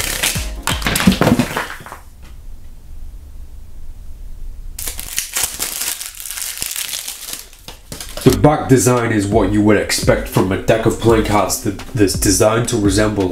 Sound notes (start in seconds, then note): 0.0 cards shuffling; 4.8 plastic rustling